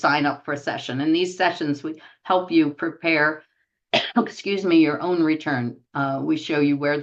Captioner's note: cough